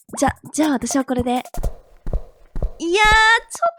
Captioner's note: Sounds of footsteps of the landlord leaving